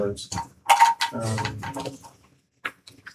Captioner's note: keyboard clanking